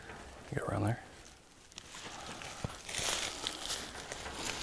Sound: leaves crunching

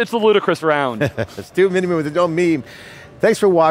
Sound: laughs

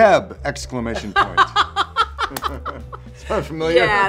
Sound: laughter

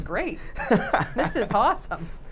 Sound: laughing

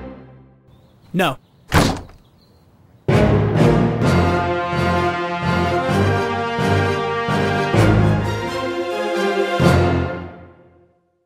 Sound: door slam

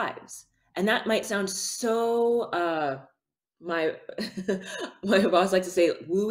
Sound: chuckles

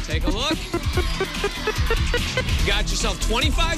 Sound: beeping

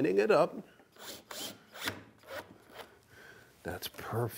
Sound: drill whirring

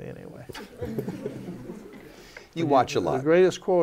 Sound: laughter

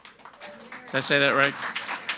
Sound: audience applauds

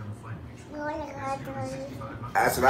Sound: baby babbles

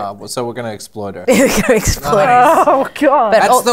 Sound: laughter

